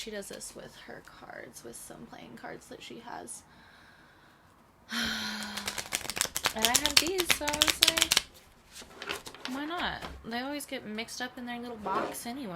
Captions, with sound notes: she does this with her cards, with some playing cards that she has. [dramatic sigh] [loud shuffling] and I had these, so I was like, Why not? They always get mixed up in their little box, anyway.